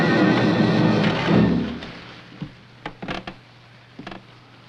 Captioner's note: rattling